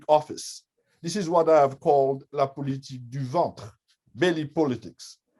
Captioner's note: french